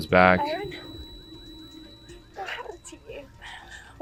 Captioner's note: high pitch ringing